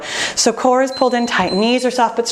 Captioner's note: timer beeping